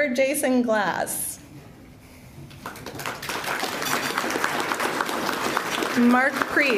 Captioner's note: applause